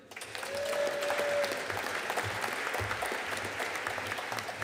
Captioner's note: audience cheering and applauding